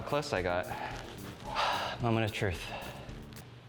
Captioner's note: sighs